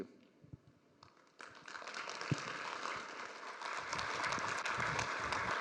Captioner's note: applause